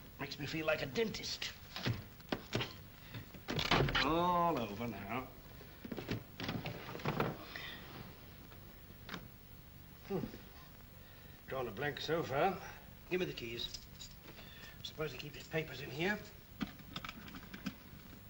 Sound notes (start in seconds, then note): 4.5 wood splinters; 5.8 desk opens; 17.2 lock clicks